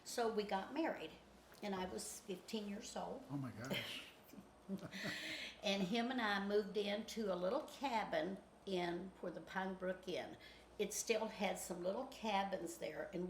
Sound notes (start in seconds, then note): 4.6 chuckles